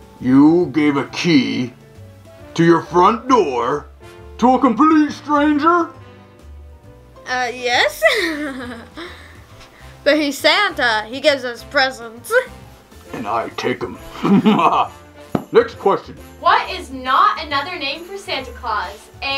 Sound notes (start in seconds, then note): 8.0 laughs; 14.1 laughs evilly